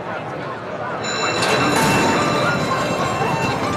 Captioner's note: bell ringing